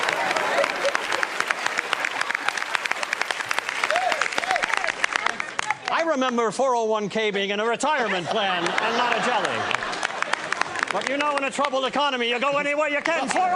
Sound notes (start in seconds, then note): 10.1 laughter